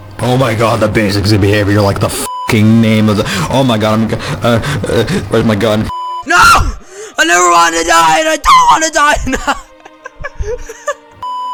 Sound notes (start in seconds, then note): 8.1 voicecrack; 9.1 Cosmic laughs embarrassedly